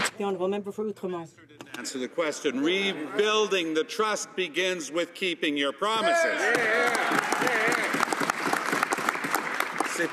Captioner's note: some Applause